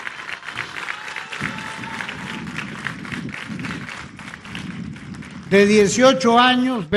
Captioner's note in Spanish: aplausos